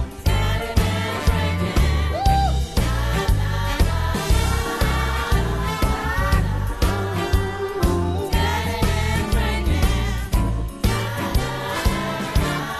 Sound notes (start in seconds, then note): none